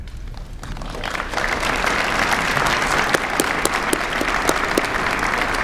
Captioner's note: applause